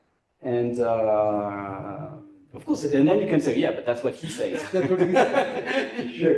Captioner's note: laughs